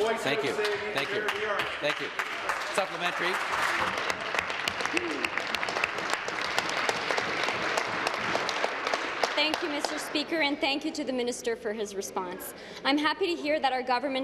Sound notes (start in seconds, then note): 5.4 applause; 9.9 continued applause